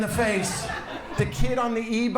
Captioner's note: audience laughs